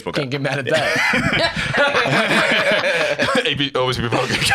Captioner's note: all laughing